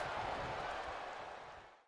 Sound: crowd cheering

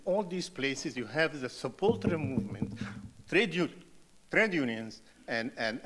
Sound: muted rattling

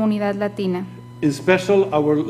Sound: speaking foreign language

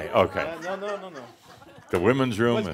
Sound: a few chuckles

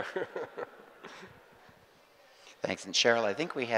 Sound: group laughing

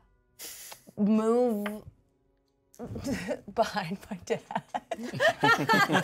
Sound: chuckles; laughs

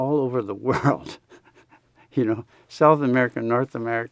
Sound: laughs

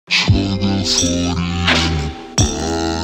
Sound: screwed Voice

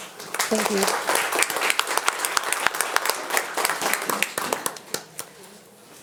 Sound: audience applauding

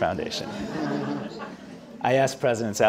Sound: audience laughing

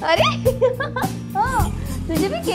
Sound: laughing

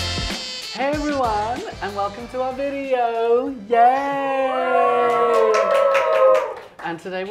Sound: applause

